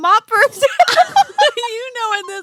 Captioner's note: laughing